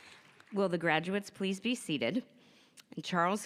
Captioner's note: applause